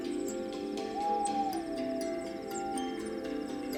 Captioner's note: owl hoots